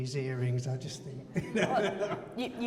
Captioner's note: laughs